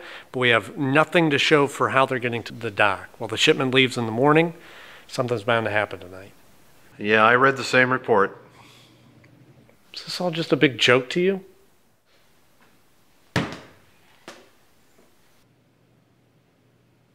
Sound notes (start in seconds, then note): 13.3 ball bounces